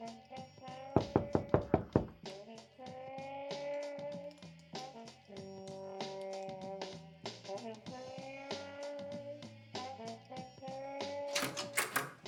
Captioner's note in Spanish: toques en la puerta